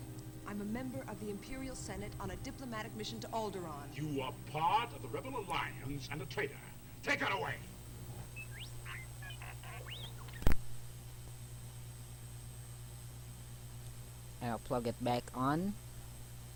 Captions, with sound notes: I just saw an old hard drive trying to archive what's left." The police, idk: "You are part of the pirates and a criminal. Take that bastard away!" (R2D2 noises) (Audio out, static) Now I'll plug it back on.